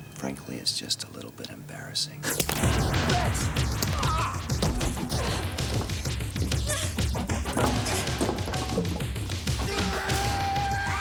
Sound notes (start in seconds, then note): 3.8 groans; 5.5 energetic music; 6.6 Jodie grunting; 9.5 yelling